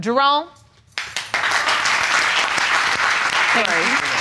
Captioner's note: audience applause